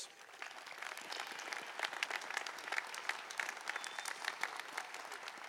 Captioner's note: applause